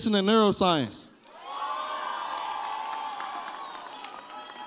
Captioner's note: audience cheers